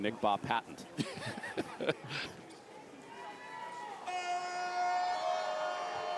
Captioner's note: laughter